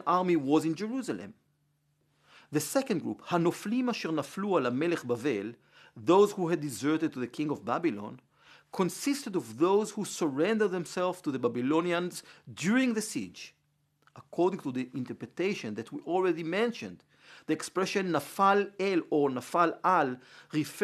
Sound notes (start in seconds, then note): 6.5 Hebrew; 20.6 Hebrew